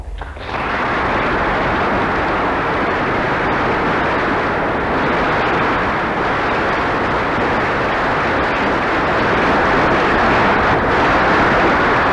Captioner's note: stormy applause